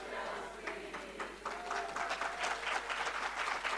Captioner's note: applause